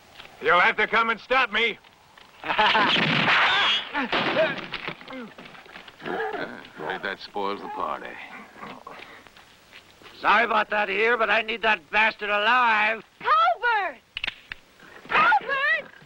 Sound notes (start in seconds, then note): 2.4 laughter